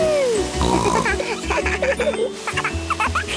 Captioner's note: snorting; giggling; laughter